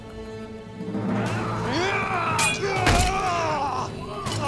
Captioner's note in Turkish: Dövüşme sesleri